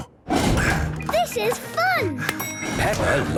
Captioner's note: panting